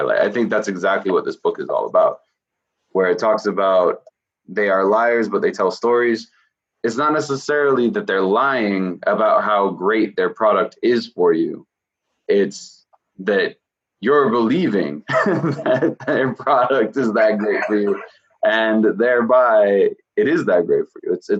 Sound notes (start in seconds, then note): 14.2 laughing